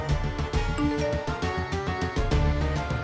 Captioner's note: phone beeps